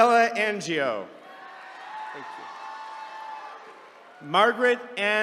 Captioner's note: attendees cheering